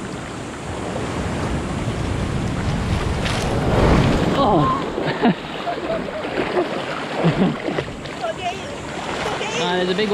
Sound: sound of the sea

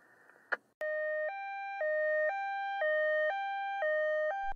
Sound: ambulance siren

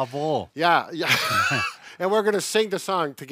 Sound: laughs

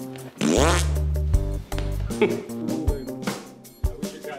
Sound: Lucifer blows raspberry

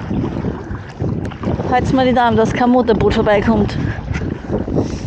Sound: wind

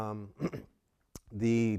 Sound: cough

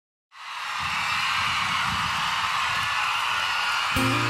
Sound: crowd cheering; pop music

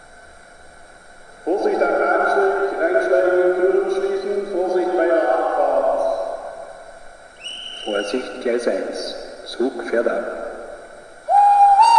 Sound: conductor's whistle and announcement

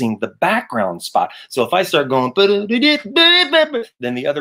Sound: mimics saxophone

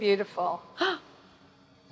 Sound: gasps

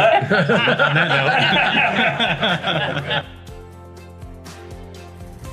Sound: everyone laughs

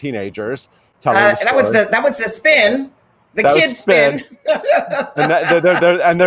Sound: laughs

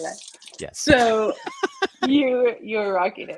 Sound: both laughing

